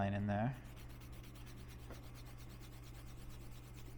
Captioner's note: pencil rubbing